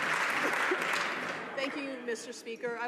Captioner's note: some Applause